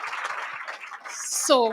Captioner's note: audience applauds